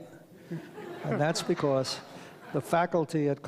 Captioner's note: audience laughs